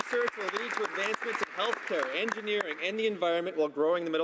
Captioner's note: some Applause